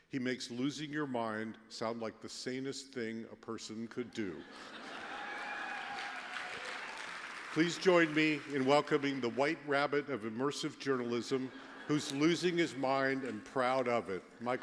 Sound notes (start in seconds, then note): 4.2 laughter; 4.6 applause